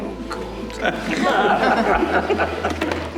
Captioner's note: audience laughs